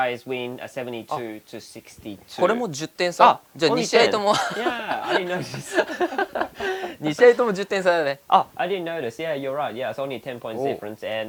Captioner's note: laughs